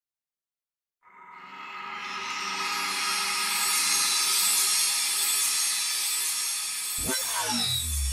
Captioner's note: sound Effects